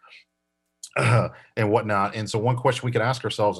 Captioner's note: coughs